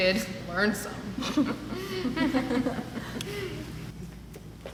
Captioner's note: both giggling